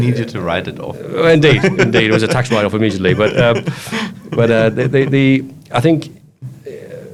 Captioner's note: laughs; speaks quickly